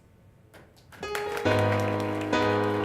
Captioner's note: applause